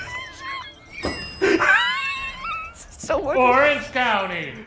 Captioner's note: laughing; bell dings